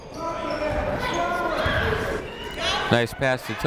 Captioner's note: people shouting in the crowd